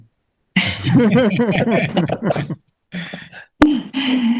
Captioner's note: everyone laughs